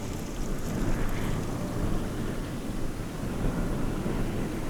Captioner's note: wind howling